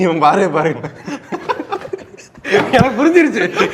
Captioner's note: men laugh